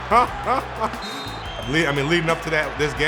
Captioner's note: laughing; whistles blowing